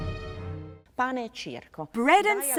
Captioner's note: speaking in foreign language